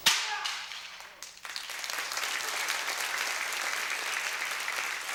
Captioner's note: applause